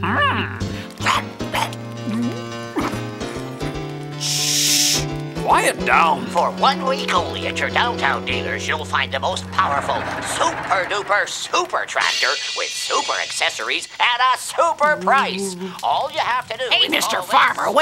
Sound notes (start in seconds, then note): 2.5 gulps